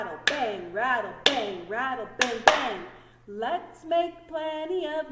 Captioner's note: clap hands